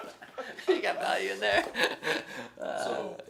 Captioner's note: laughs